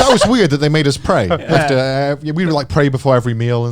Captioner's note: chuckling